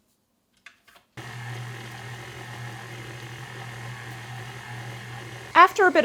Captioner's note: mixer sounds